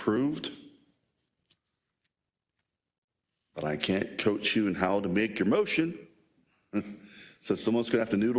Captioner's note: laugh